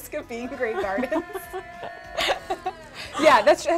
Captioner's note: ladies laughing